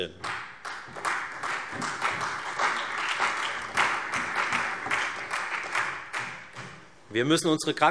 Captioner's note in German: Allgemeiner Beifall